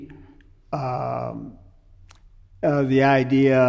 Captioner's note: none